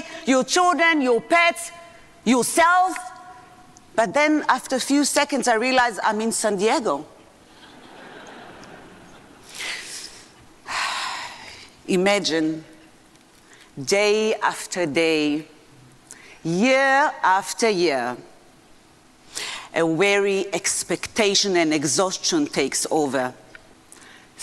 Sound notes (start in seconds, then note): 7.5 audience laughing; 7.5 sighs